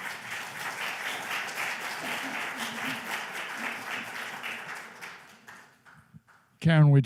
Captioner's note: applause